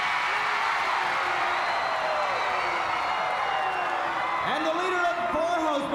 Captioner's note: crowd cheering